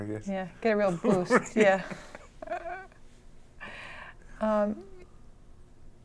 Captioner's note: laughing